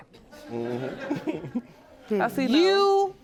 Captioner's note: chuckling